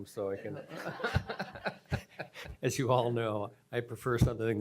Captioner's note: laughter